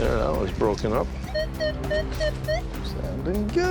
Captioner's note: beeping